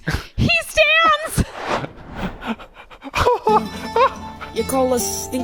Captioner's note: laughing